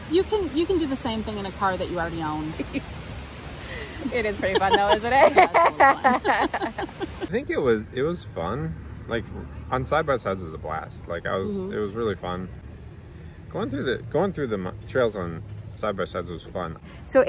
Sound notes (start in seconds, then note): 3.9 laughs; 4.4 both laughing